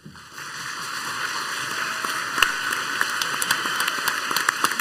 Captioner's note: crowd applauds heartily